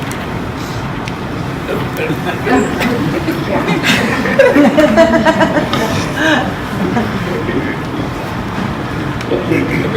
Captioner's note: laughter